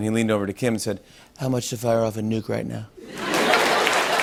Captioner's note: As Trump; laughter